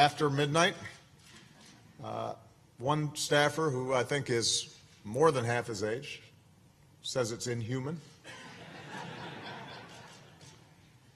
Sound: laughter

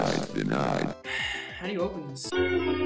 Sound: sigh

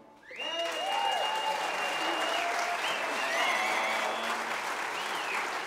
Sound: audience cheering and applauding

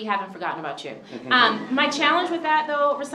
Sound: chuckles

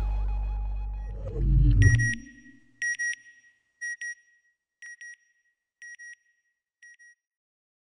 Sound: beeping

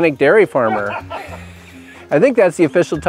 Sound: off screen laughter

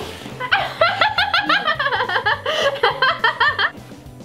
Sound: laughing

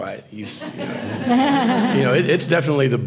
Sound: audience chuckles

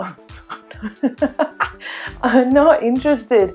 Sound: laughs

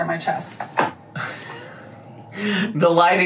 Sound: laughs

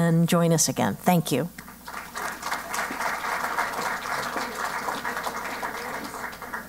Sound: applause

